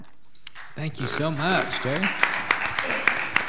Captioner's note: audience applauds